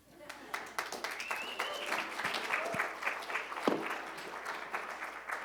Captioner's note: applause